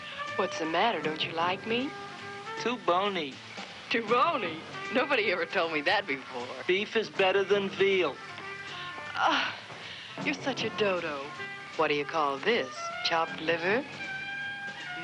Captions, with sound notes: What's the matter, don't you like me? - Too bony. - Too bony? Nobody ever told me that before! - Beef is better than veal! - (sighs) You're such a dodo! What do you call this, chopped liver?